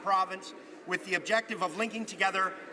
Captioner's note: speaking French